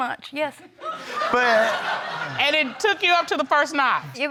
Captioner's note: audience laughing